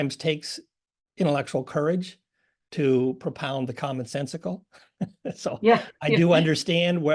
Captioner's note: laugh